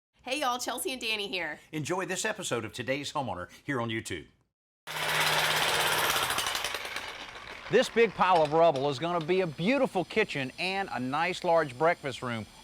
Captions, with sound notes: (jackhammer hammering) - This big pile of rubble is gonna be a beautiful kitchen and a nice large breakfast room,